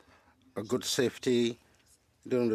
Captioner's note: speaking French